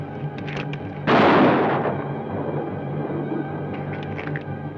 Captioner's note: gun fires